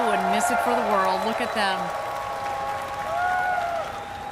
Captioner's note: cheers and applause